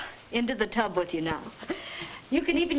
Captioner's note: chuckles